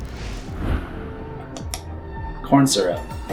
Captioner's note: air whooshing; tense foreboding music